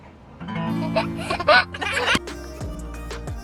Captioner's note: giggling